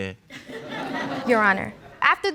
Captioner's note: audience laughs